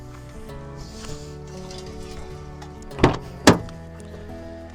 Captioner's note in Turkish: homurdanır